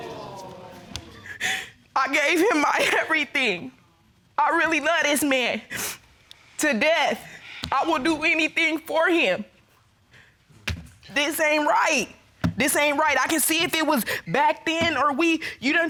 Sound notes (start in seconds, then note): 0.0 sobbing